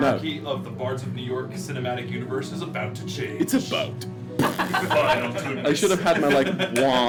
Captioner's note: lips buzzing; laughter